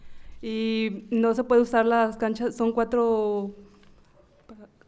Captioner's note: speaking in foreign language